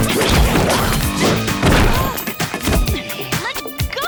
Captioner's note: grunting